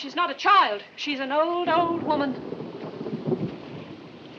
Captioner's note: rolling thunder